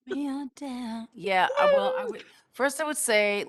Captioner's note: laughs; squeals